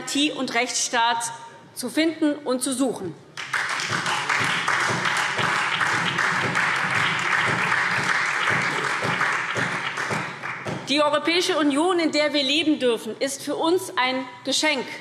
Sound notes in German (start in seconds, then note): 3.3 Beifall SPD und Freie Demokraten